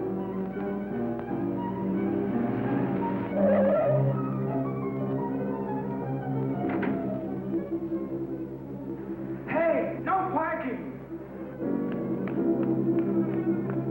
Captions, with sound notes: (tires squealing) - Hey, no parking! (dramatic music)